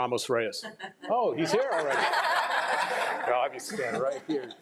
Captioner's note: crowd laughing